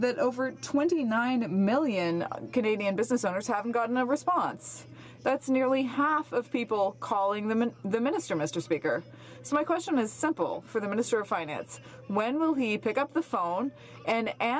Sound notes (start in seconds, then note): none